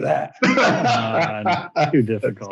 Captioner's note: laughs